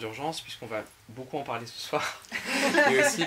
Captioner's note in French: rires